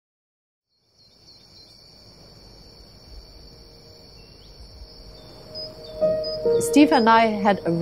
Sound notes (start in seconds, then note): 0.7 soft crickets and birdcalls